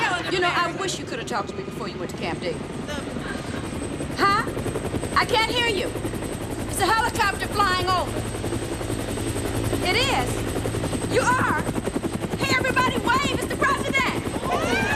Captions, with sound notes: YOU KNOW, I WISH WE'D TALKED BEFORE YOU WENT TO CAMP DAVID. [helicopter hovering] HUH? I CAN'T HEAR YOU. THERE'S A HELICOPTER FLYING OVER. IT IS? YOU ARE? HEY, EVERYBODY, WAVE! IT'S THE PRESIDENT!